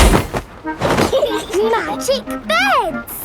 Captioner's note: laughing